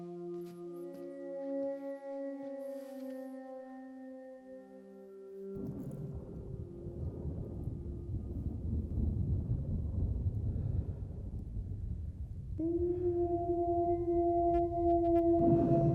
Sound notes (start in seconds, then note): 5.6 thunder; 14.1 wolves howling